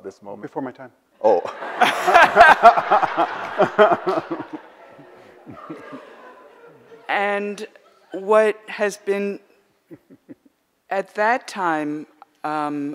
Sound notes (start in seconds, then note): 1.3 audience laughs; 4.0 laughs